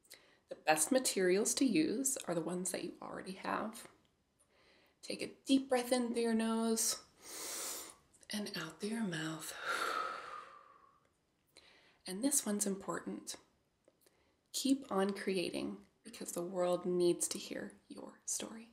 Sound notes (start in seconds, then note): 7.1 breathes; 9.7 exhales